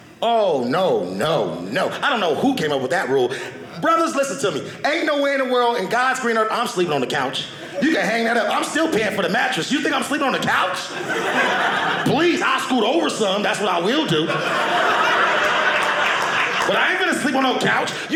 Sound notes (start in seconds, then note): 13.9 audience laughing